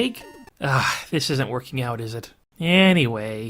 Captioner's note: sigh